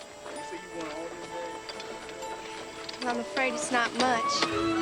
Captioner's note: bright music; workers chattering